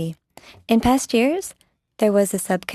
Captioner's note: speaking French